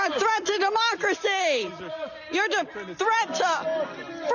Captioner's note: crowd chanting